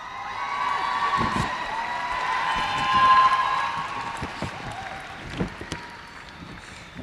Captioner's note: cheers and applause